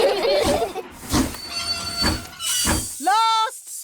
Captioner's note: laugh; train chugs